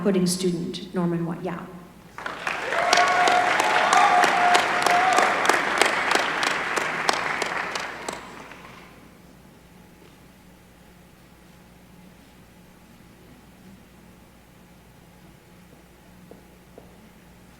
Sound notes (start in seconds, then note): 2.0 applause